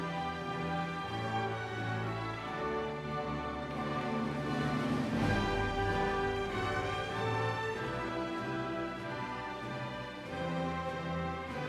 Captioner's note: cheering